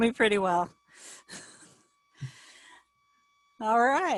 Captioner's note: laughing